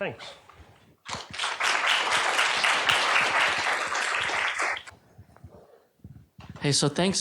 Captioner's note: applause